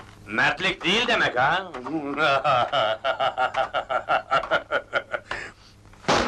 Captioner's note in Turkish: kahkaha